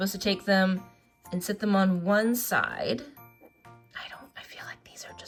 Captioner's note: whispers